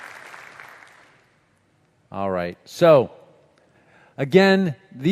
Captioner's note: applause